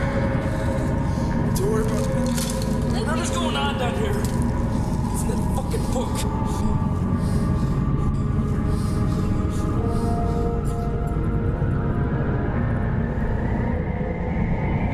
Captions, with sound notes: - No te preocupes por eso. - Lo que está pasando de nuevo aquí, es en ese maldito libro. (respira fuertemente) (ominosa de la música) (ominosa de la música)